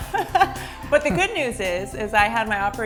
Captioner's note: laughter